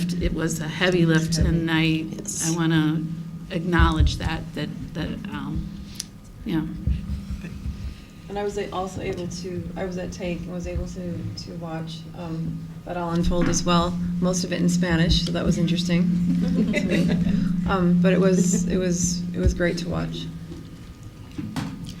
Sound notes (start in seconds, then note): 16.3 laughter